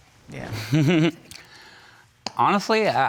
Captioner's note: chuckles